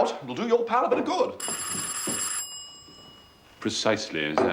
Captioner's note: doorbell rings